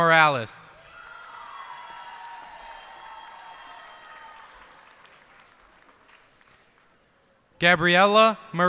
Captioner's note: cheers and applause